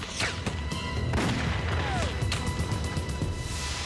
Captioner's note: guns firing